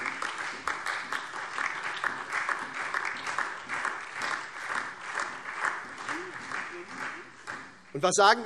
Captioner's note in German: Lebhafter Beifall SPD und DIE LINKE